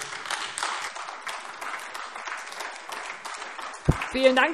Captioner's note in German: Beifall AfD